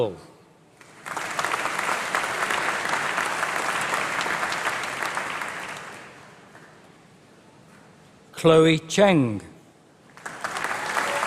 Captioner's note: applause